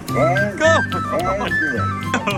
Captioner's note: laughter; applause